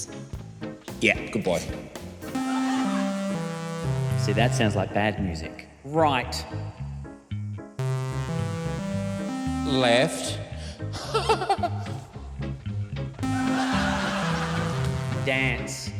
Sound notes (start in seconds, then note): 2.3 descending keyboard notes play; 7.8 ascending keyboard notes play; 11.0 laughs; 13.2 descending keyboard notes play